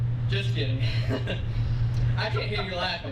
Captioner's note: laughs